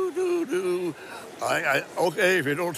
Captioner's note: humming